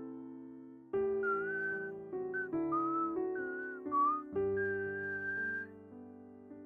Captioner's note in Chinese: 口哨asmr